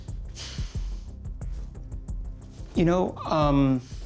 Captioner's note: sighs